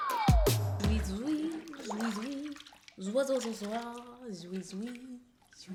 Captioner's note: water splashing and humming